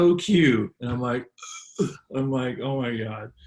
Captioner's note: gasps